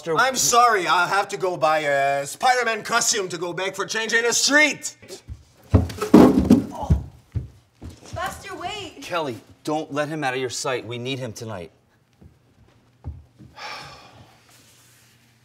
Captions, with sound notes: BUSTER I'm sorry, I have to go buy a SPIDERMAN costume to go beg for CHANGE ON THE STREET! (guitar slams ground) KELLY Buster! Wait! JAY Kelly don't let him out of your sight, we need him tonight.